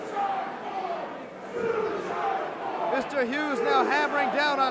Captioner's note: crowd cheering